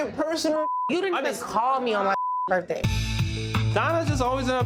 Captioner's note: beeps